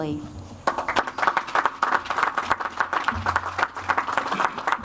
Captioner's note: audience applauds